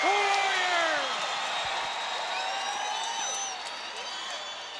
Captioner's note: crowd cheering